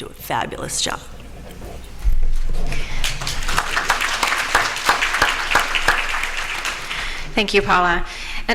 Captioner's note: applause